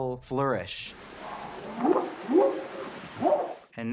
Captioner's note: whooping sound